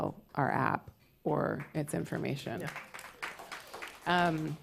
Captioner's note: applause